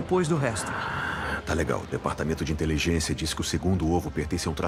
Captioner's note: sighs